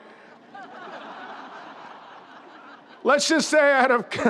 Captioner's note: crowd laughs